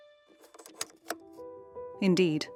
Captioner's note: slide clunking